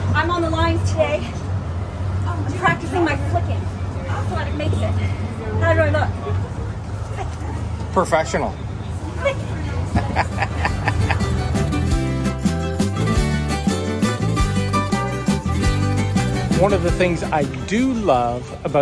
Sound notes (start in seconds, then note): 9.8 laughs; 11.4 lively music